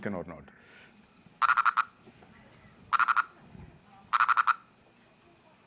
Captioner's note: frog croaking